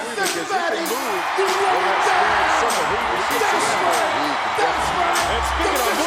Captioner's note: crowd cheering drowns out commentators